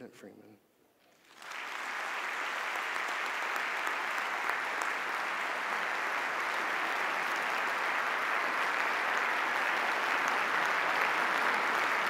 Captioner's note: audience applause